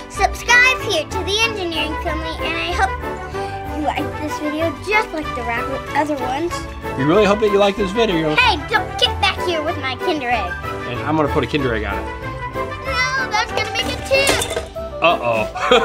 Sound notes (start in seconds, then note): 13.2 crashing